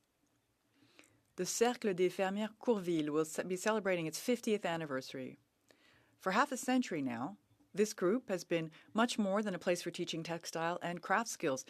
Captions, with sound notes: rise today to mark a significant anniversary in my riding. This year the [Speaking French] Will be celebrating its 50th anniversary. For half a century now this